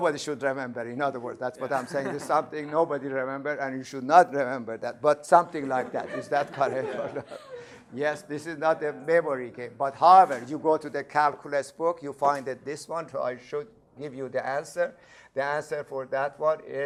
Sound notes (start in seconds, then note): 5.5 laughter